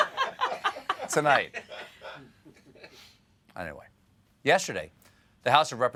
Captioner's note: laughter